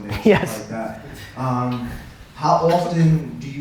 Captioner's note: audience laughter